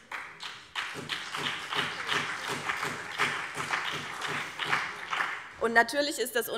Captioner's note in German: Beifall BÜNDNIS 90/DIE GRÜNEN